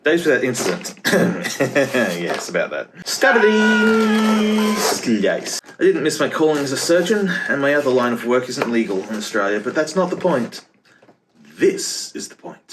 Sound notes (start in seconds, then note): 1.4 laughing; 3.2 Wilhelm scream